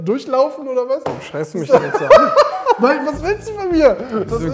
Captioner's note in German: Lachen